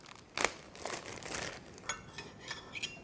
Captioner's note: bag rips